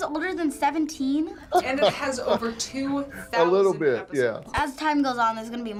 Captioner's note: laughs